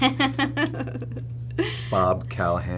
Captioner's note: laughing